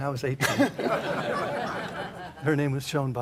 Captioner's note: laughter